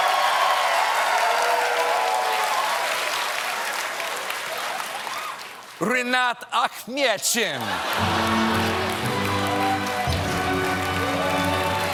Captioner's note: laughter